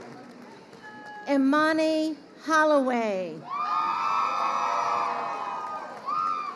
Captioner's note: crowd cheering